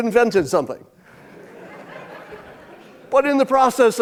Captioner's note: audience laughing